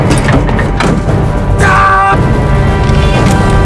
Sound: screams

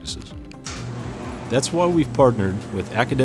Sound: door opening

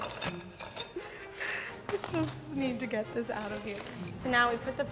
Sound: laughs

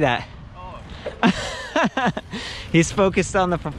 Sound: laughing

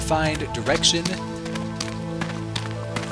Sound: footsteps

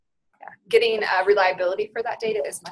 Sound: voiceover

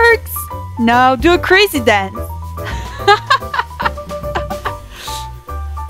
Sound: rire

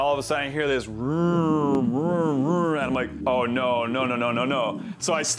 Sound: tape Sounds

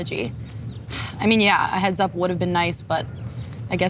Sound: scoffs

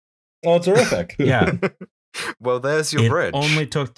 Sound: laughter

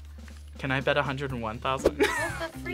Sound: laughs

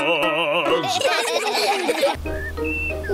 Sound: children laughing

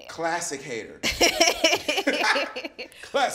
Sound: laughs

